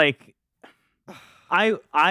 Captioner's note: sighs